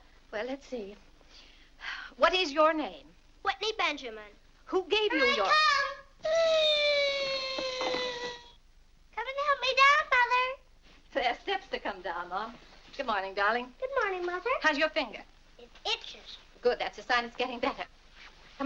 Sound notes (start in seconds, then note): 1.8 sighs